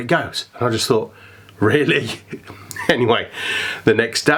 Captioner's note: laughs